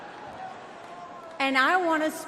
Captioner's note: crowd jeers